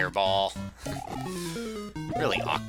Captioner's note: laughs